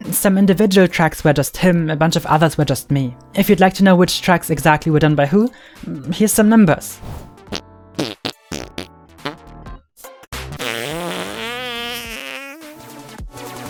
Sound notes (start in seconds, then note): 7.7 fart sounds; 10.6 loud fart sound